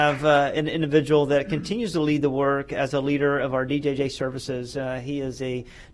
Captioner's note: applause